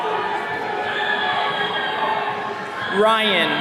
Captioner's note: attendees cheering